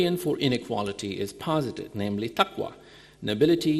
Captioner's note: speaking in foreign language